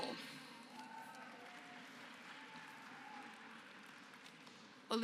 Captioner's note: applause